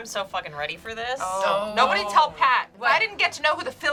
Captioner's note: groans